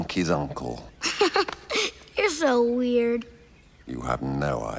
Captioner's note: laughs